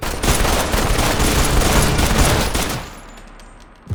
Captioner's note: guns firing